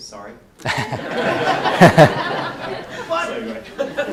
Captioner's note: laughter